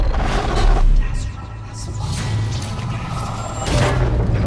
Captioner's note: distorted sounds; whispering